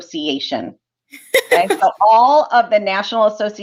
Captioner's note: laughter